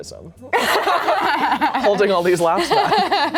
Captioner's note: laughs